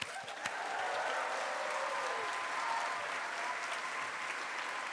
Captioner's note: cheers, applause